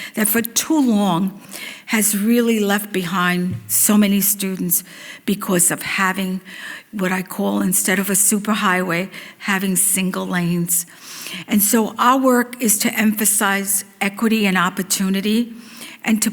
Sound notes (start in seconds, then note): none